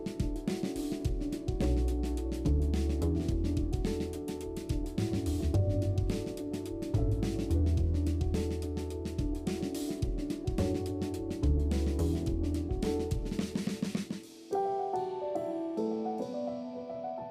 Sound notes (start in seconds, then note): none